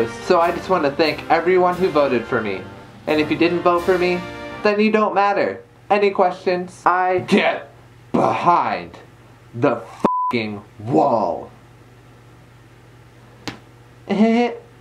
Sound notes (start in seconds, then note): 13.4 clap